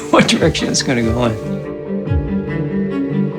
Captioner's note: chuckle